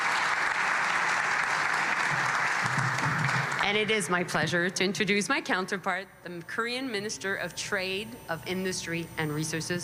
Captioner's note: applause